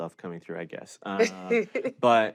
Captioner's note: chuckles